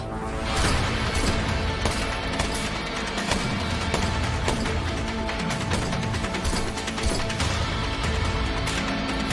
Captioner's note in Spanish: Disparos